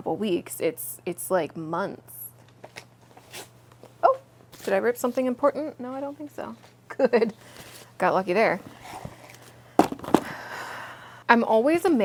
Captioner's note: paper tearing sound